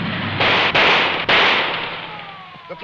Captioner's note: gun blasting; siren blaring